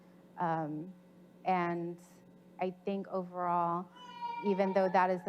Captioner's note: child screaming